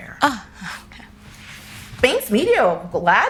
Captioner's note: laughing